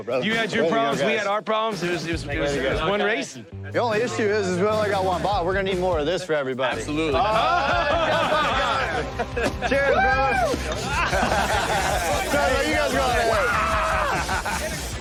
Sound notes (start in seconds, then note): 7.1 laughter; 13.6 laughs